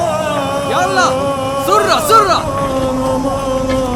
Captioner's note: scolding in Arabic